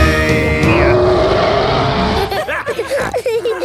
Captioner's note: roaring; laughter; snorting